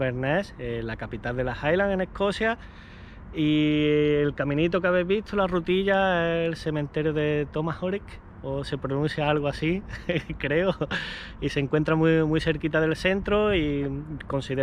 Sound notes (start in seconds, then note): 10.5 laughs